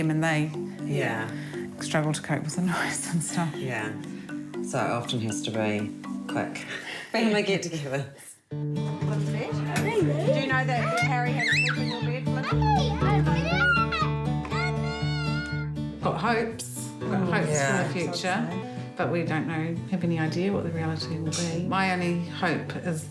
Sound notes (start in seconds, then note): 7.8 both laugh; 14.5 squeals